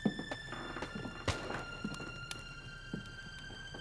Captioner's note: gunfire